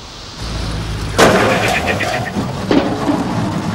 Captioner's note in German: Krach